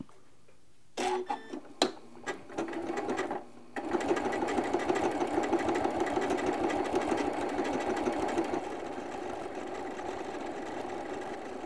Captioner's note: machine stitching